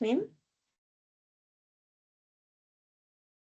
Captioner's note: silence